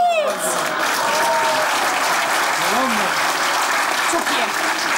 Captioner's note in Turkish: Alkış sesleri